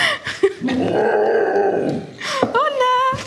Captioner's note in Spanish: Aullido